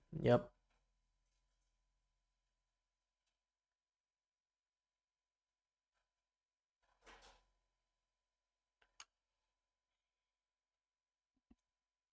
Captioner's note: silence